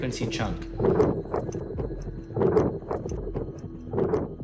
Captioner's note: wind whistling